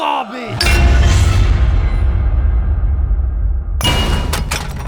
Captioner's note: haunting glass echoes